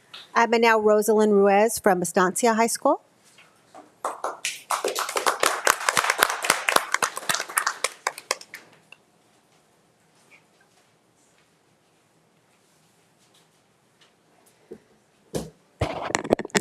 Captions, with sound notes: And now Rosselyn Ruiz from Estancia High School. (audience applauding)